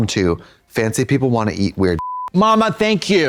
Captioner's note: beep